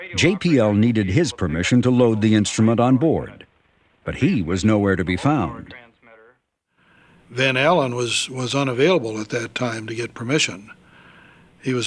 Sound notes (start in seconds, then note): none